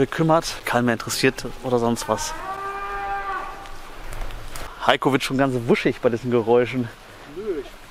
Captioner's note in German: laute Tiergeräusche